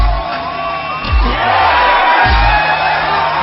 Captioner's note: all cheering